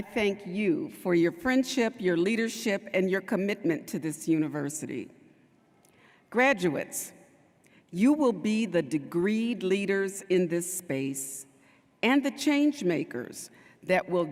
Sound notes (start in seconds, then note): none